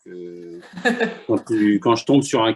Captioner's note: laughter